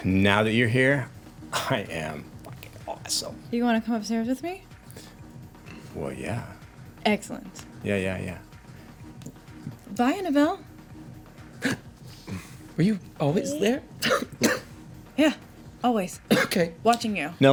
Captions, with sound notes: "Now that you're here, I am fucking awesome." You wanna come upstairs with me? "Well, yeah." Excellent. "Yeah, yeah, yeah." Bye, Annabelle. (gasps) Were you always there? Yeah, always. Okay. Watching you.